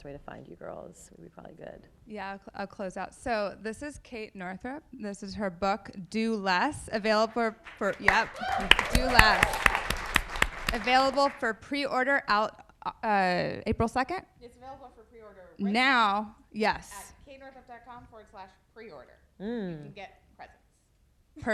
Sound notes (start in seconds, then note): 7.6 audience applauding